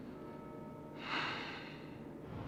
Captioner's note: sighs